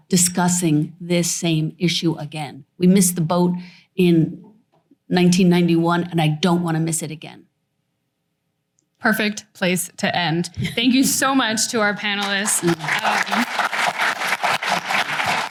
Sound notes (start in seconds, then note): 12.1 applause